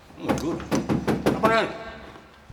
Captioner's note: door banging